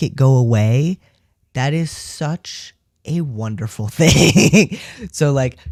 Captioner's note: laugh